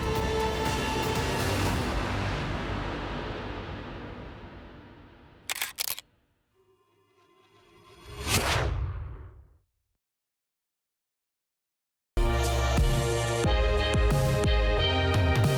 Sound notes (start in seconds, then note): 5.5 camera shutter clicking; 7.0 logo whooshing; 12.2 bright upbeat music